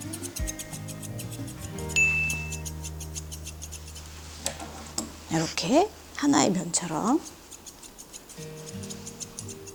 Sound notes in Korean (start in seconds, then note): 1.9 효과음/띵 하는 소리; 7.1 가위질 소리